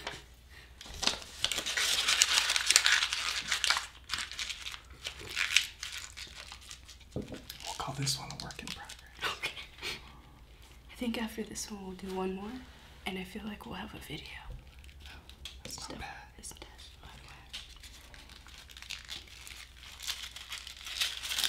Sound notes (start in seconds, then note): 0.8 crumpling paper; 17.4 crumpling paper